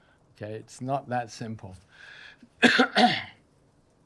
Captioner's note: coughs